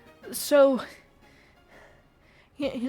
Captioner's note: heavy breathing